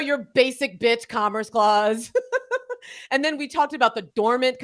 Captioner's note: both laughing